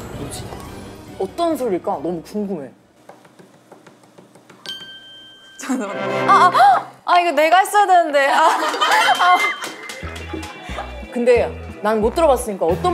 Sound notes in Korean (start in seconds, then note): 3.0 타닥타닥타닥